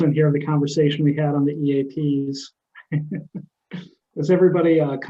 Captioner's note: laughing